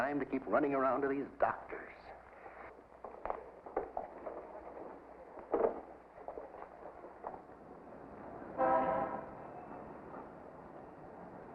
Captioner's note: footsteps; traffic noises